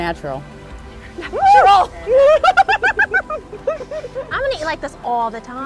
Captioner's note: cheer and laugh